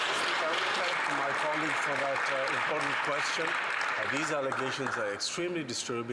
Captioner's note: some Applause